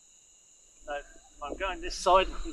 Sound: insects chirping

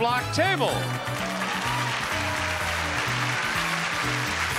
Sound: audience applauding

